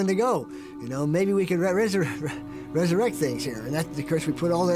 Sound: chuckles

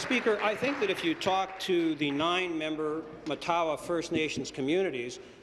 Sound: applause

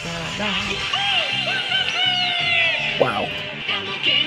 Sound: shouting in Japanese; singing in Japanese

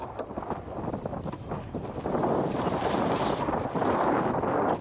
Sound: sounds of tacking

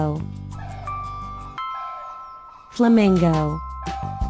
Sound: flamingo sound

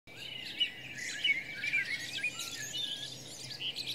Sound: birds chirping

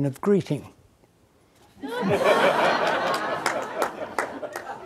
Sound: audience laughing

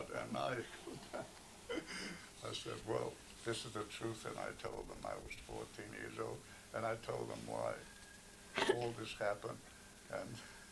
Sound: laughs

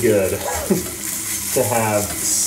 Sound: chuckles

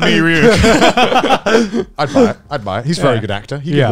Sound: everyone laughs

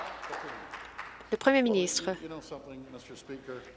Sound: some Applause

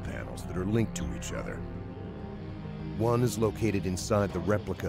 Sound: voiceover

